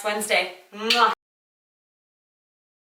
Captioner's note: kiss